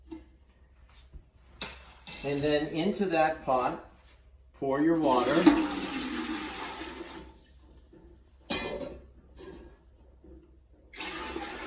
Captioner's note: spoon klinks on counter; water splashes